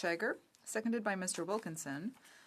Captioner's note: speaking in French